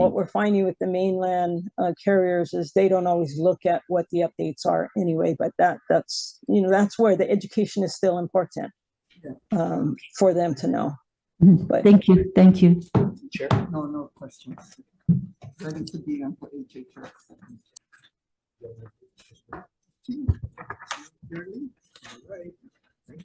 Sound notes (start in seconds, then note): 16.3 faintly speaking; 18.9 speaking faintly; 20.3 board member speaking faintly